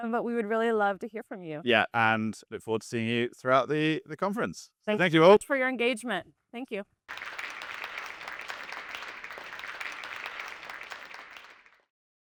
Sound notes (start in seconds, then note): 7.1 audience applauding